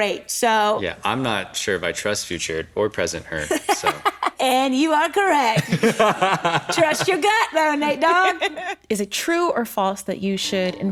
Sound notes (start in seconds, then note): 3.4 laughs